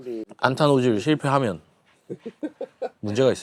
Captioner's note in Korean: 웃음